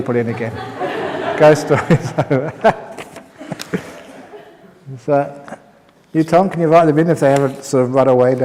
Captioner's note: laughs